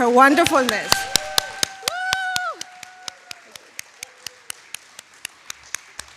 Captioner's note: audience applauding